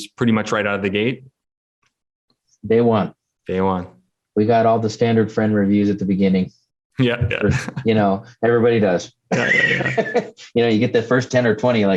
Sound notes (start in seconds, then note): 7.0 laughs; 9.3 laughs